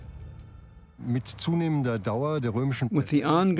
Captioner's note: speaking German